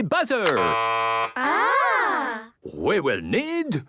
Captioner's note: buzzing